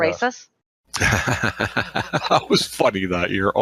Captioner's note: laughs